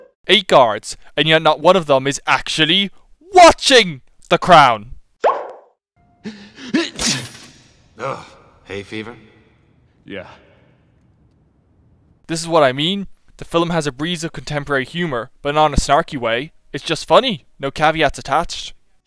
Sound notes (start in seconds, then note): 6.6 sneezes